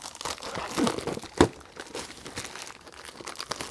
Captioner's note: plastic crinkling